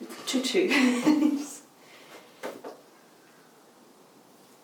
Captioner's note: chuckles